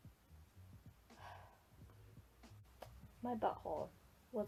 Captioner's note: big Sigh